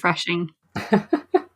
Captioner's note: laughs